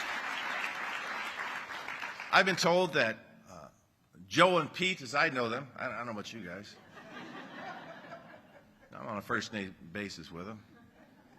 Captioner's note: applause